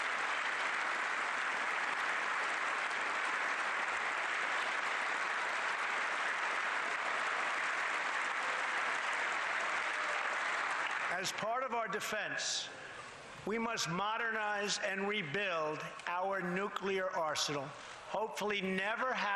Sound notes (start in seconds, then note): 3.2 applause